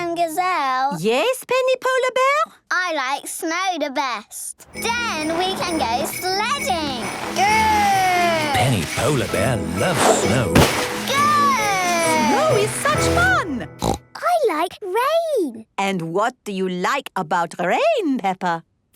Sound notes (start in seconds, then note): 13.7 snorting